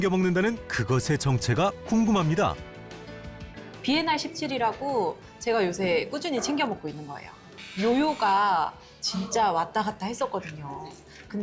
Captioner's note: voiceover